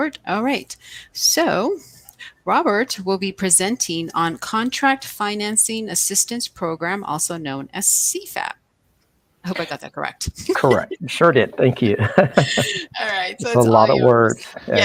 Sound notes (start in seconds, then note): 10.4 laughs